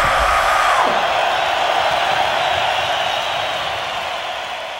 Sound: audience applauding

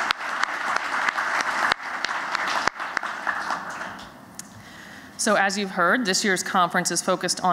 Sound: applause

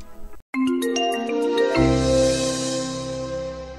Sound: logo chiming

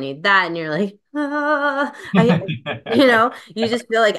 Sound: laughing

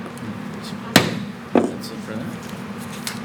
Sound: gavel bangs

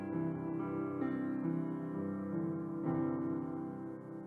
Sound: none

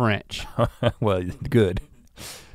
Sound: chuckles

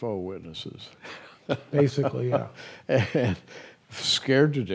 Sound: chuckles

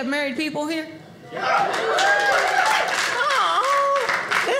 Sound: audience cheers

